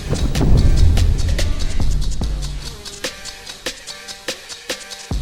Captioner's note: Queen Serpentine hisses